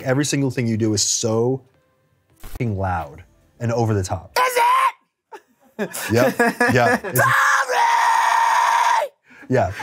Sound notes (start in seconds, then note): 4.4 screams; 5.3 chuckles; 7.1 screams